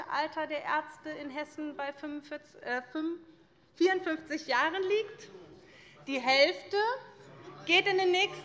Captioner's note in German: none